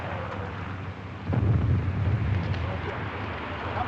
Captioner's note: explosion